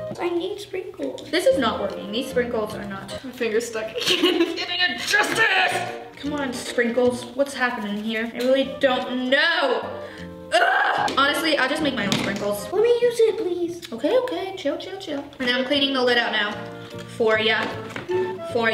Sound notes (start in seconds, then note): 4.8 yelling